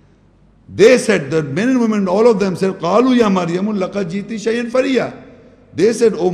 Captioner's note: Arabic